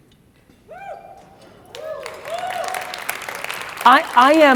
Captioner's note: audience cheers and applauds